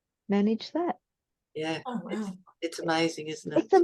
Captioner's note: everyone goes wow